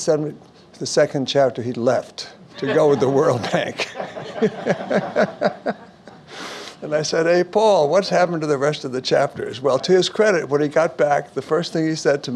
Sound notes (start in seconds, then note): 2.5 laughs; 4.8 audience Laughs